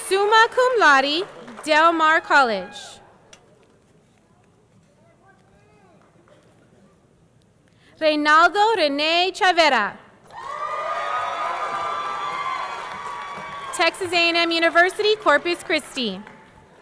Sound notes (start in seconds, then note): 10.3 audience cheering; 10.3 audience clapping